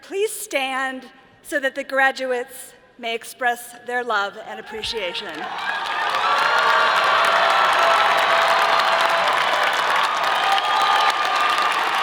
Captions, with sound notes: please stand so that the graduates may express their love and appreciation? (all applauding) (all cheering)